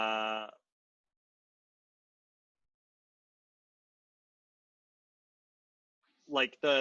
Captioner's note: silence